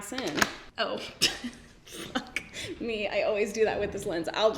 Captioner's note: laughs